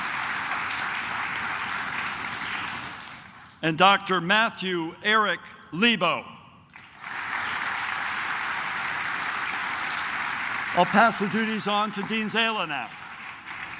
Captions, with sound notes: And Dr. Matthew Eric Leibow. (claps) I'll pass the duties on to Dean Zehle now.